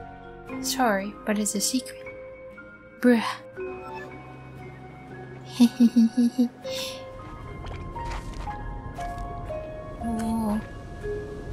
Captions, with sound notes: Sorry, but it's a secret Bruh! (giggling) [rumbling/windy noise] Ohh